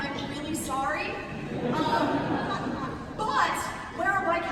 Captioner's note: laughter